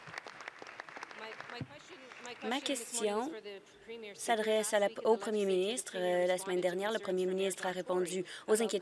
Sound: applause

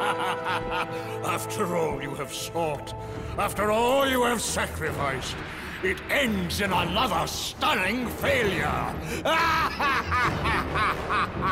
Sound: laughs; laughs

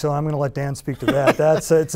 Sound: laughter

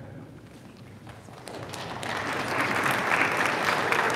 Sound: audience applauding

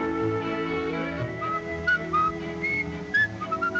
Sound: whistling

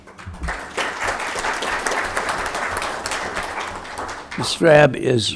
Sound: attendees applauding

